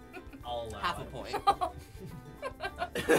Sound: giggling; laughter; laughs

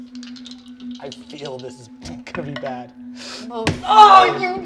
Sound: dice rolling

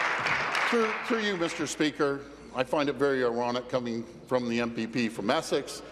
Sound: applause

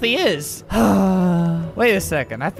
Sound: sigh

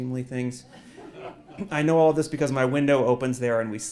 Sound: laugh

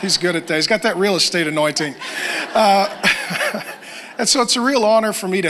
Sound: laughs

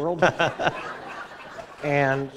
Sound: laughter

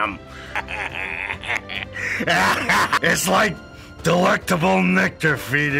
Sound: laughs

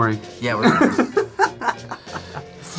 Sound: laughs

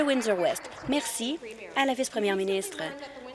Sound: applause

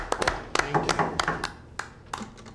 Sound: knocking

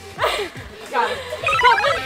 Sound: laughing

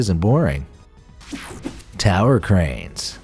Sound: image buzzing; image swooshing

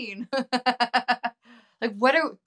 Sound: chuckles

